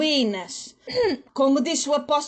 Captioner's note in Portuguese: d.maria das dores aclara a voz